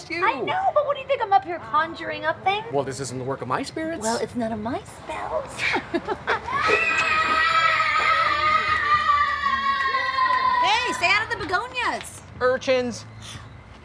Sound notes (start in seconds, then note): 5.6 laughs; 6.5 child screams